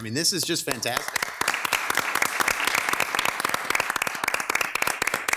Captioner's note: everyone applauds